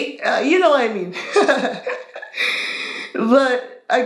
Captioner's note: laughing